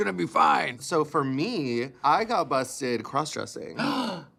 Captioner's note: gasps